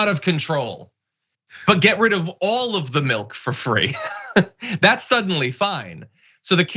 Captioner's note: laugh